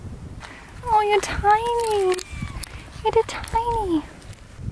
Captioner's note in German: Kätzchen miaut